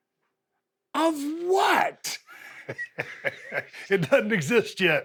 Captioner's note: Steve laughs